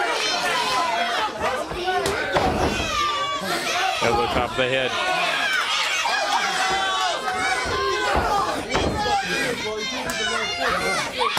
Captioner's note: crowd chatter